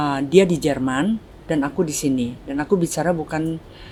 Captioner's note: italian